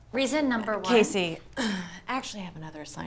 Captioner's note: clears throat